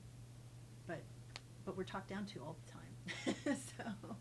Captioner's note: laughs